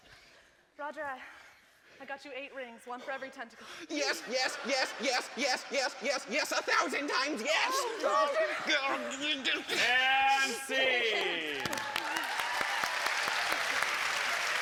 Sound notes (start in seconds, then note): 11.0 applause